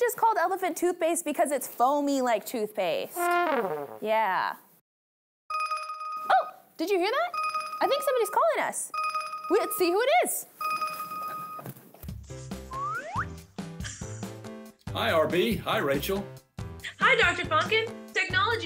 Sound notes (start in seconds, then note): 7.2 phone ringing; 14.3 upbeat music